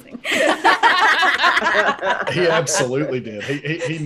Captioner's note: all laugh